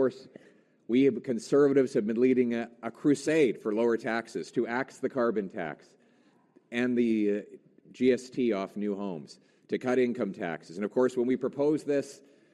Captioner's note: Conservative Leader Pierre Poilievre speaking